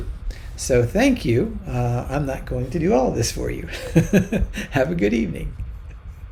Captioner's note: teacher chuckles